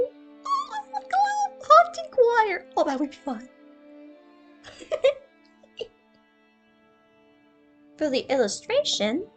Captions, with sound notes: Ooo! Like a little haunting choir?! Oh, that would be fun. *Giggle* For the illustration,